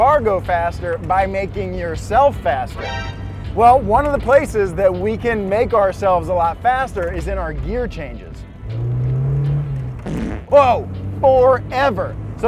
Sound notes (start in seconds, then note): 8.5 engine revs; 10.0 fart toots